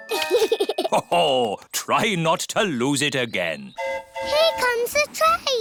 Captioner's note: giggles; train horn hooting